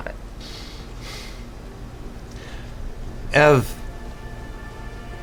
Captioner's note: takes deep breath